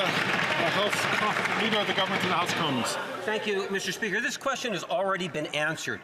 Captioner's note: some Applause